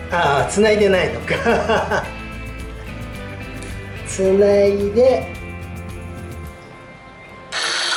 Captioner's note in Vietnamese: cười